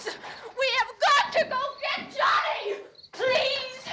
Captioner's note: screaming